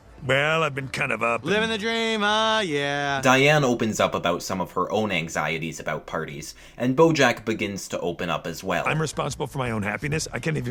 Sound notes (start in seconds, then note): 3.1 voiceover